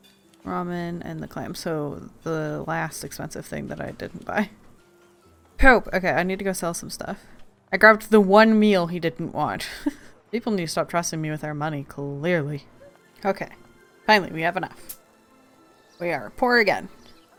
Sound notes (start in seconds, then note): 9.6 laughs